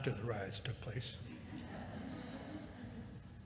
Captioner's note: laughter